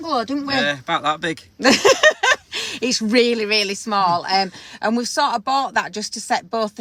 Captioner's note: laughing